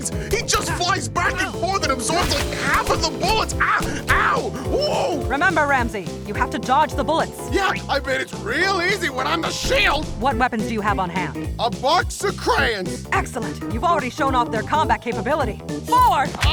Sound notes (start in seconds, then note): 11.5 sarcastically